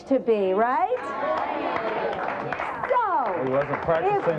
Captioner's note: audience applauds